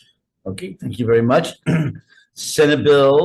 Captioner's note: clearing throat